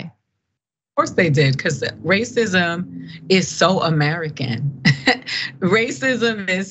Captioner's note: laugh